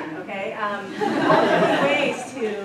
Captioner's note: laughter